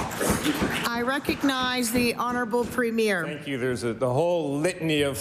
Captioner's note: applause